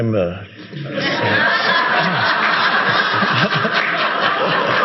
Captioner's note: audience laughing